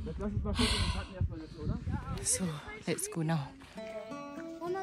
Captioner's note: sigh